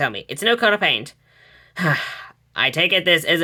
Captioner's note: Hades sighing